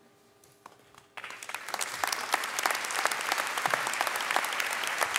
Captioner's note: audience clapping